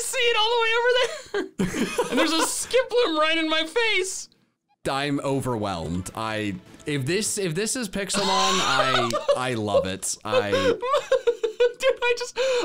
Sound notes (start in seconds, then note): 8.2 laughing